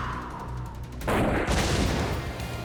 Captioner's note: exhales; gun shot, explosion